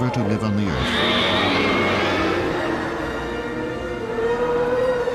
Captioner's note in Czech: dinosauři řvoucí